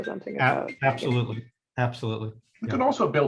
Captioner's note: phone rings